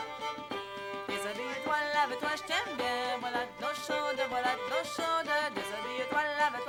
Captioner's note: acadian French